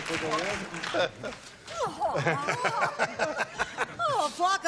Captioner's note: laughter